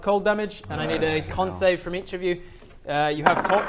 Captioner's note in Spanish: gruñido molesto